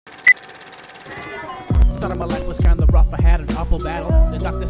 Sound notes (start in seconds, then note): 0.1 reel rolling; 0.8 beep